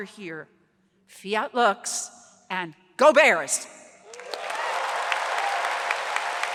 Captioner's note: audience applauds